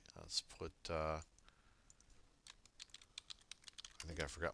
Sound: typing

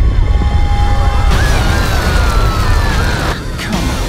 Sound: all screaming

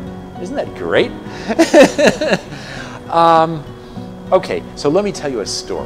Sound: laughs

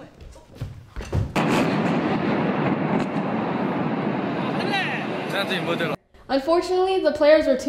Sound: explosion

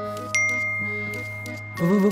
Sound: phone buzzes

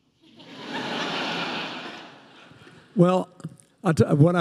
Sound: audience laughing

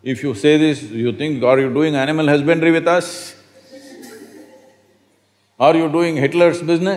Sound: laughter

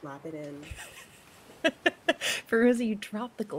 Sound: person laughing

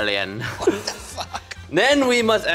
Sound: laughs

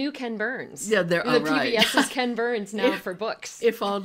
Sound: chuckles

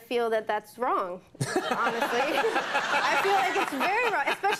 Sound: audience laughing

